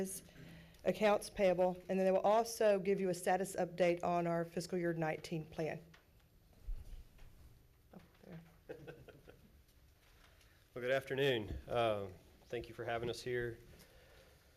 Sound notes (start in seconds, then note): 8.2 laughs